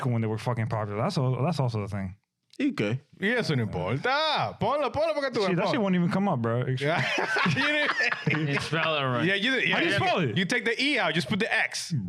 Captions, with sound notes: when they were fucking popular. That's also the thing. I good. (Speaking In Foreign Language) She won't even come up, bro. (Laughing) You spell it right. Yeah, you take the E out, just put the X.